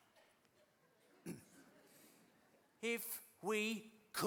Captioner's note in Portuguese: clears throat